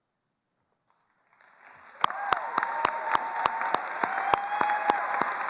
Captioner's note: attendees applauding